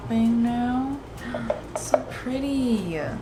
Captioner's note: gasp